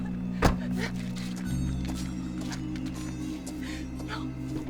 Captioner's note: door thuds